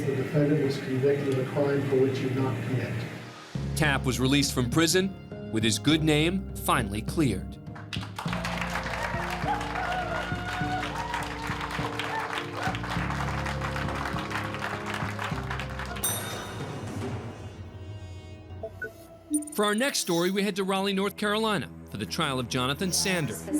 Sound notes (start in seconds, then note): 7.9 cheers and applause